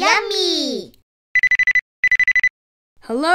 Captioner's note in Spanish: Teléfono que suena